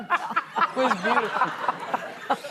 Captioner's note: laughing